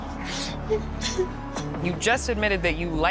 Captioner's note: crying